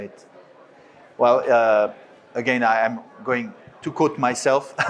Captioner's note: laughs